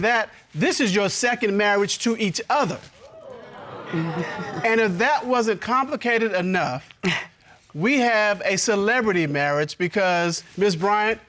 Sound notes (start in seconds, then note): 3.0 audience cheering; 3.0 chuckles